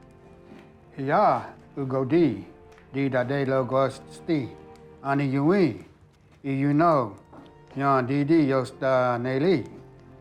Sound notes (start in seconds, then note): 0.7 speaking Cherokee